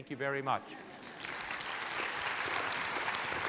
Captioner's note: applauding